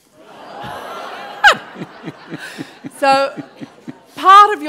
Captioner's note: laughter